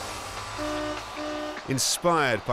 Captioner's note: horns honking